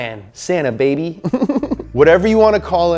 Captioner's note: laughs